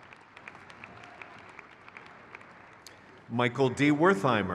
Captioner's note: crowd cheers